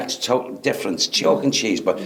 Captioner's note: speaks quickly